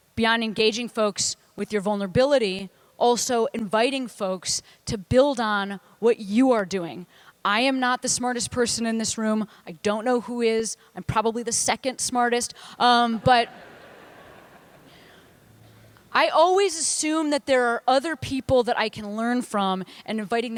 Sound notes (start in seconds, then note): 13.1 laughter